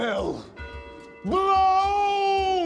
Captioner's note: bells tolling